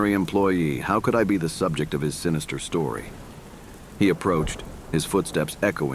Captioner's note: loud footsteps